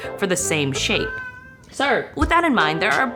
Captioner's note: cat meowing